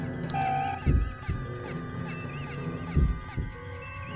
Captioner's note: faster thumping sound